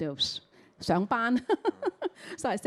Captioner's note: Cantonese